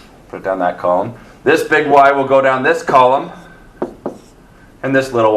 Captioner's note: marker thuds